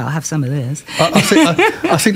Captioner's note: laughter